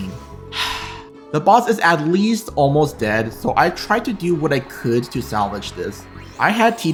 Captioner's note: sigh